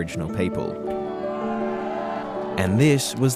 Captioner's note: cheering